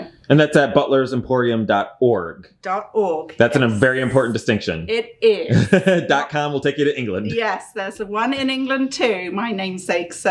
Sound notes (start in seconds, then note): 5.3 laughing